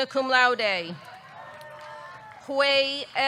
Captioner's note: audience cheering; audience clapping